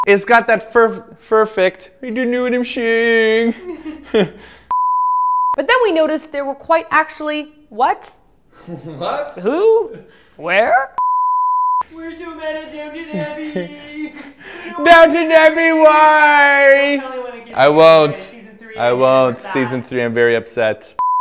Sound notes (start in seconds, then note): 0.0 beep; 3.6 both chuckle; 4.7 beep; 8.6 laughs; 11.0 beep; 21.0 beep